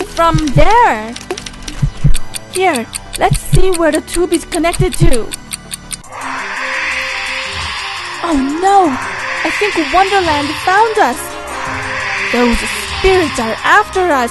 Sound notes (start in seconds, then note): 6.2 screech